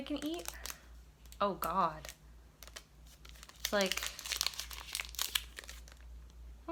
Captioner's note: unwraps luna bar